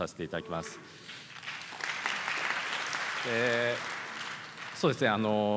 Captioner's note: applause